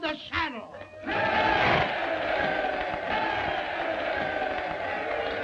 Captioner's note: crowd cheering